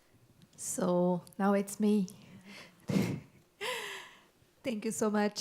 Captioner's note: laughs